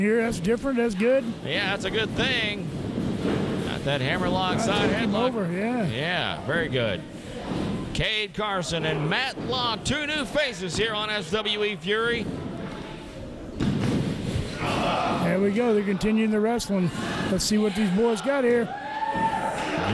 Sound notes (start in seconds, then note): 13.6 tapping on mat; 14.4 wrestlers groans